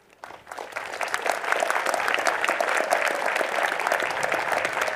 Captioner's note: applause